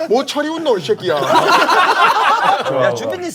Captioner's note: laughing hard